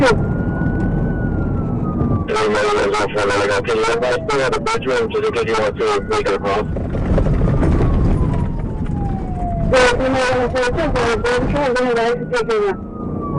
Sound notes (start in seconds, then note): 2.5 radio chatter; 4.8 radio chatter; 9.9 radio chatter